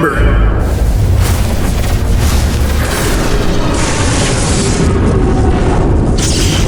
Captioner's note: ship whooshing; energy cracking